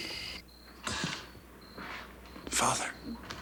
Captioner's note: crickets chirp